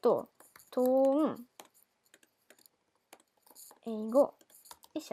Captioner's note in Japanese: 紙にメモを書く音